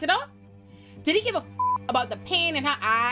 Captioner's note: beep